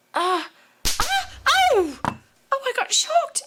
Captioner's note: electric spark